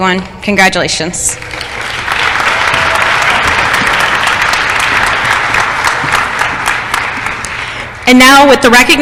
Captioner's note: applause